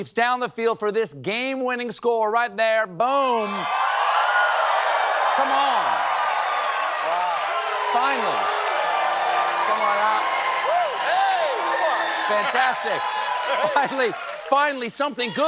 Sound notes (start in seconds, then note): 8.0 cheering